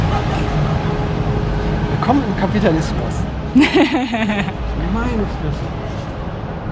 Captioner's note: laughs